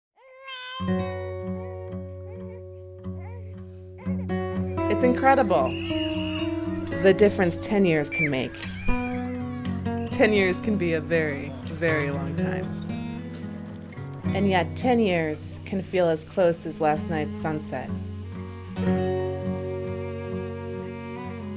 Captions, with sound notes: [baby crying] It's incredible.. ..the difference 10 years can make. 10 years can be a very, very long time. And yet ten years can feel as close as last night's sunset.